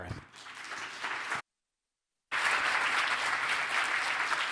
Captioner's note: audience applauding